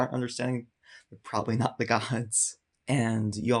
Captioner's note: chuckles